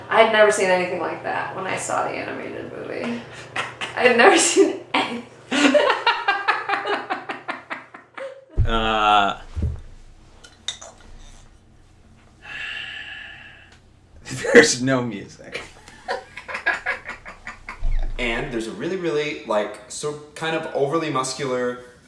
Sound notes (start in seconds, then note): 3.2 laughs; 4.1 laughing; 5.5 both laughing; 12.2 sighs; 15.4 laughing